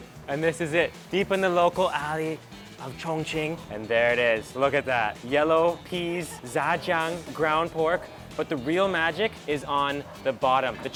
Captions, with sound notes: And this is it, deep in the local alley of Chongqing. And there it is, look at that. Yellow peas, (speaks in a foreign language) ground pork. But the real magic is on the bottom,